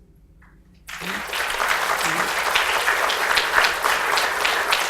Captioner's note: audience applauds